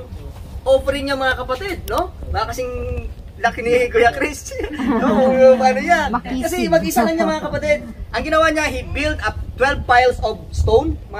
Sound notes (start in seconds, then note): 4.5 laughs